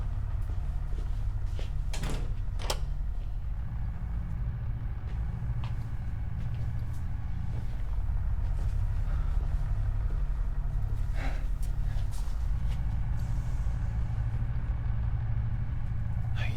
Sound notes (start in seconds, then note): 1.9 door clicks shut; 12.3 suspenseful music continues